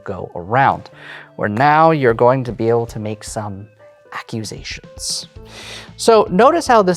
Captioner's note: whispers